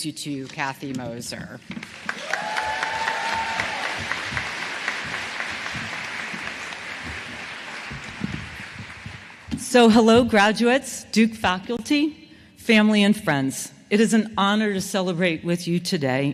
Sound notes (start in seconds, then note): 1.7 applause